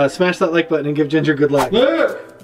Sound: whooshing

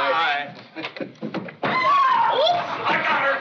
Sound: screaming

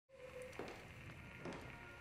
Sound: footsteps

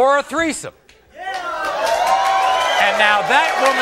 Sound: audience cheering

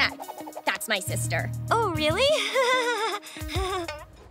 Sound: laughing nervously

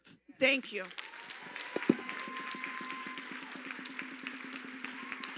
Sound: audience applauding

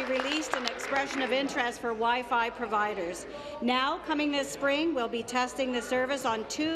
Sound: applause

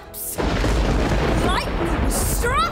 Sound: thunder

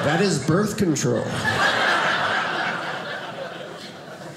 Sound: audience laughing

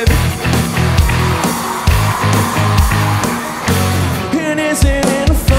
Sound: crowd cheers

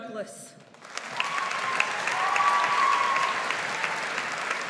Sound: audience applauds

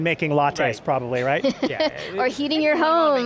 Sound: laughing

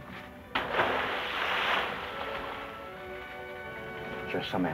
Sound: water splashes

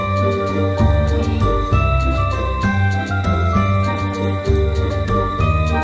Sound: soft bells ringing

